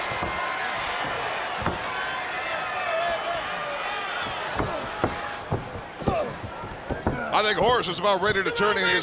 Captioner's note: crowd chatter